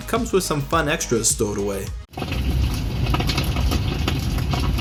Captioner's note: a crackling fire